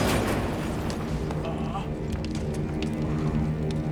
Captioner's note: grunts